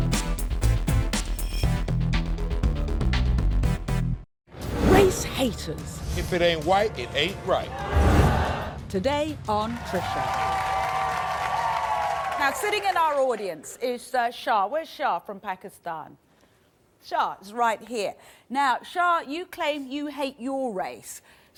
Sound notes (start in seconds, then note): 7.7 crowd boos; 9.6 crowd cheers